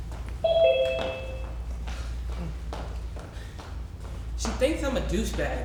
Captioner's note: Six breathes heavily